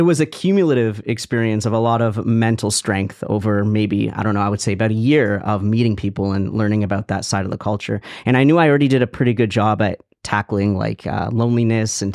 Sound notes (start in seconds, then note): none